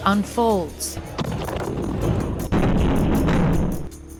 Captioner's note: explosions rumbling